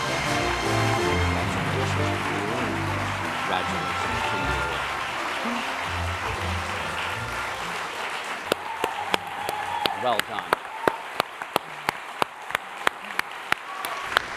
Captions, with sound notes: - Congratulations. - Congratulations. (applause and cheering)